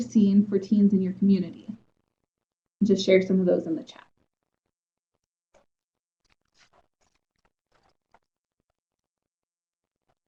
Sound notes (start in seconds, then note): 5.6 silence